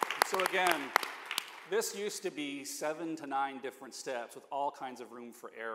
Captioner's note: applause